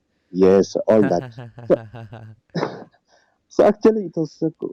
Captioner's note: chuckles